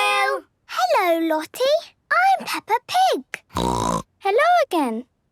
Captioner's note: snorting